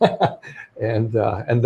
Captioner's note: laughing